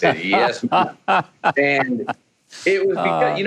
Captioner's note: Mike laughing